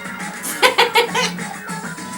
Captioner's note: laughs